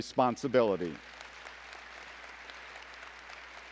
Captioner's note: applause